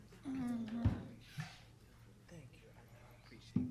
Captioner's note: group chatter